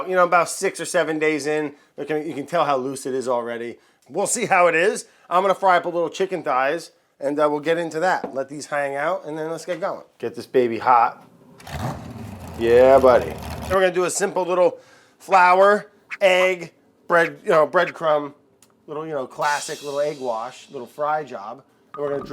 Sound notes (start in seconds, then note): 11.6 engine starting